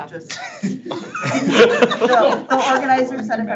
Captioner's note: board members laughing